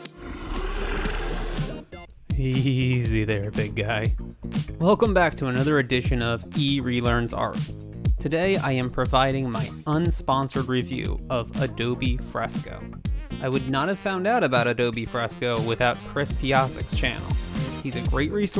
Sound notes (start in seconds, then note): 2.6 dragon Roar